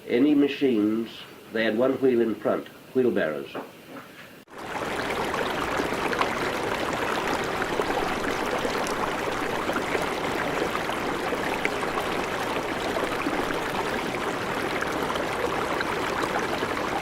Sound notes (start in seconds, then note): 5.2 the sound of water bubbling loudly